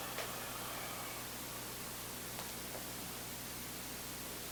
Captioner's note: both exhaling